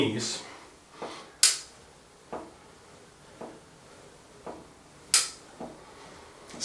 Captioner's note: loud click ... click